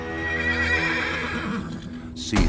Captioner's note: horse whinnies